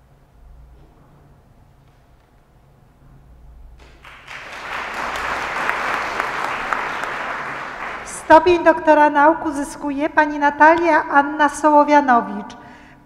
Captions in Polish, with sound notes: [oklaski] Stopień doktora nauk uzyskuje Pani Natalia Anna Sołowianowicz.